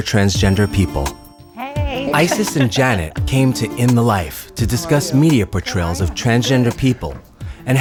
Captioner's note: mock giggling